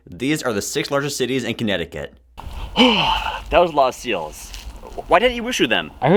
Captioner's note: phew